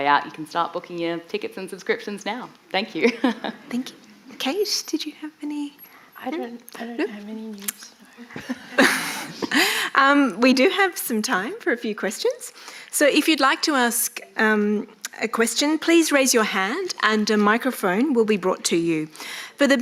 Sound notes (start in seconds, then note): 3.0 chuckles; 8.2 chuckles